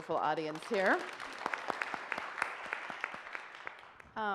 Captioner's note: audience claps